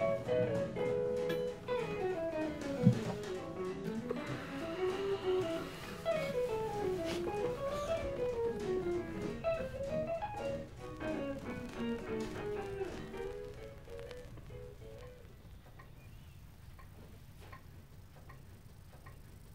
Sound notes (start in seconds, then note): 15.9 clock ticking